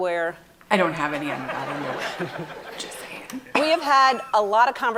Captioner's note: people laughing